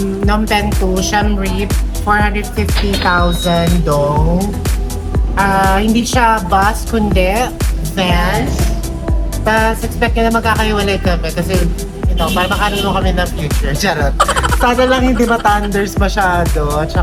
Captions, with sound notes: Phnom Penh to Siem Reap 450k Dong [Cash register SFX] Ah It's not a bus but a van Then, expect us to be seated apart Because So, we can find for our future, Charot! [Laughing SFX] I hope he's not that old